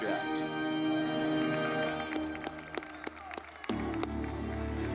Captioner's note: audience clapping; dramatic music; audience clapping